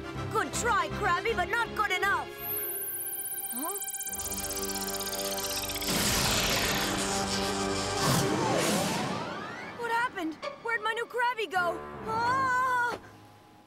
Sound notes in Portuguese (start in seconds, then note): 2.5 zumbindo; 4.0 crepitando